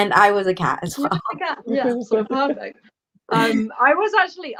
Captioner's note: laughter